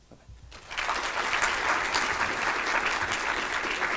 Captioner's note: applause